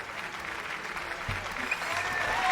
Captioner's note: applause